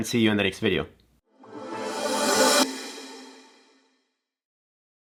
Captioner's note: electronic sounds